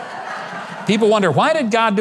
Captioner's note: audience laughs